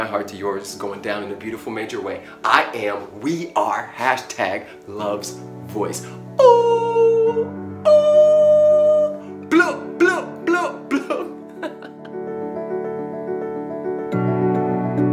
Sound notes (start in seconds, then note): 11.4 laughter